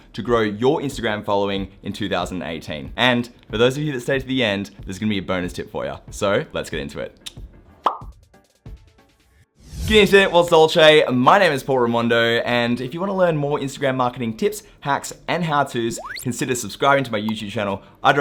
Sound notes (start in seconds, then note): 7.2 clicks tongue; 7.8 pop; 10.1 speaks in foreign language